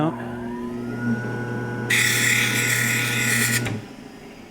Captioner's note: machine grinding